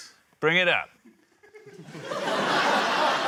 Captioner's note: laughter